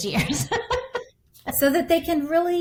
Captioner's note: laughing